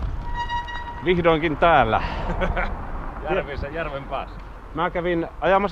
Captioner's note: laughter